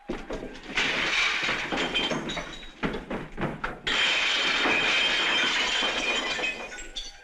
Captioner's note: glass shattering